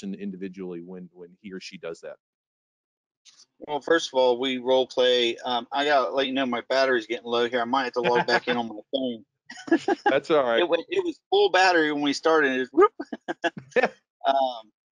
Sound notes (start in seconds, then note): 9.5 laughing; 13.3 mimics wind gushing